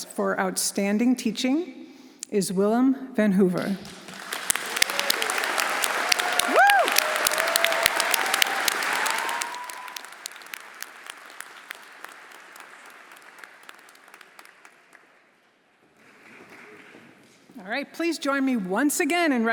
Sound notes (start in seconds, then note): 4.4 everyone applauding and cheering